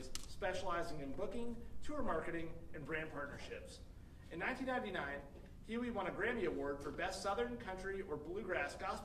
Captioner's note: none